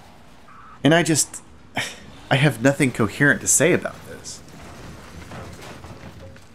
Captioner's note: scoffs